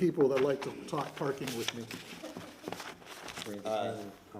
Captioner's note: laughs